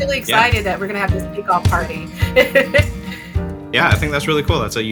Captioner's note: laughs